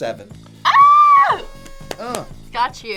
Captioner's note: screams